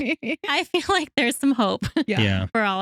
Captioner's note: both Laughing